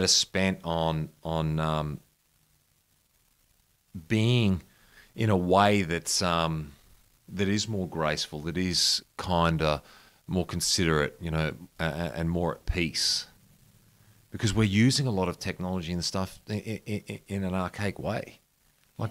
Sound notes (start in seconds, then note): none